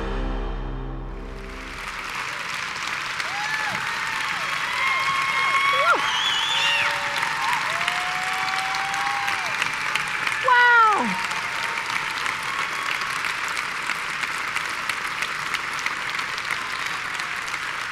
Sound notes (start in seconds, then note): 2.2 cheering and applause; 11.9 applause